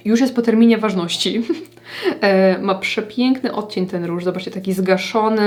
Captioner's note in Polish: śmiech